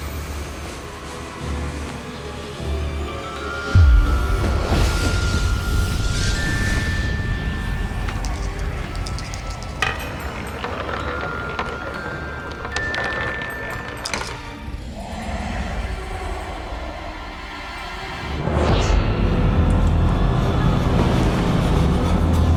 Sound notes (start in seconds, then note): 0.2 ominous orchestral music; 3.8 moves into shadowy bell music; 9.7 marble rattling; 17.8 moves into ominous orchestral music